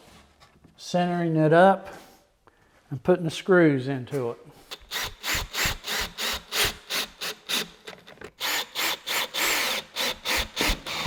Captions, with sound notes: of centering it up and putting the screws into it. (drill buzzing)